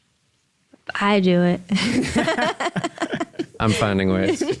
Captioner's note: laugh